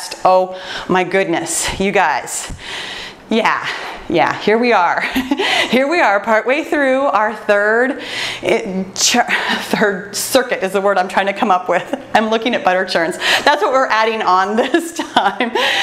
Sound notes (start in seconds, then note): 5.1 laughs; 8.5 stutters; 12.1 laughs; 15.6 laughs